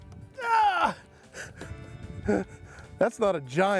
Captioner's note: grunt